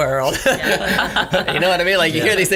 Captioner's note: laughter